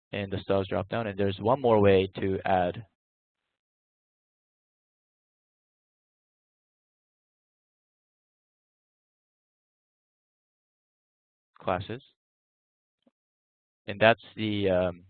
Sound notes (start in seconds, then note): none